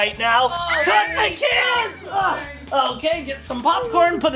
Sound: Adley squealing

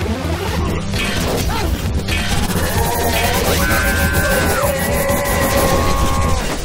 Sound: music intensifies; Exoria Two grunting; hammers clunking

